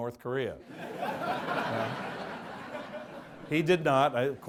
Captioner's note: audience laughs